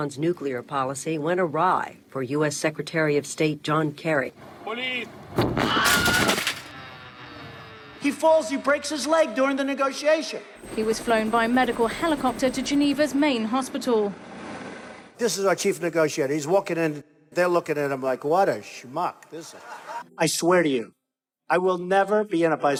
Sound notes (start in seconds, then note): 5.4 crashing